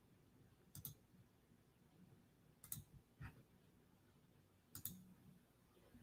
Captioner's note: computer mouse clicking